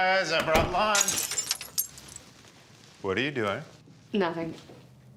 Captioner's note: door opens; glass breaks